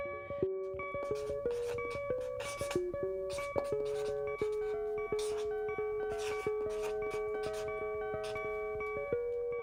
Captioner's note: sound of marker